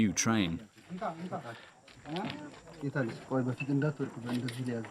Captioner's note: speaking in foreign